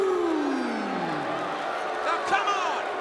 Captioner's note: crowd cheering